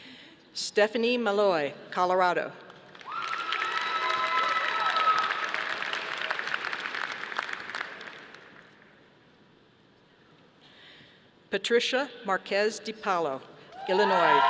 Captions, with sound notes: Stephanie Maloy, Colorado. (audience applauding) Patricia Marquez-DiPaulo, Illinois.